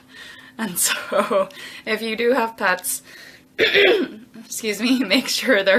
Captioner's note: coughs